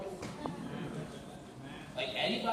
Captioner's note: laughter